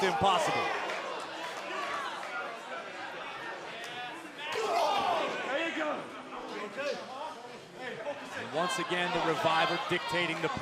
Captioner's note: crowd chatter